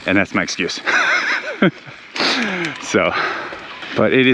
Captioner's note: biker laughs